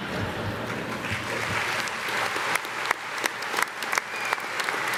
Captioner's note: audience laughing and clapping